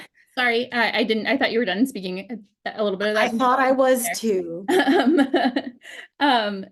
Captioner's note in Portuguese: risos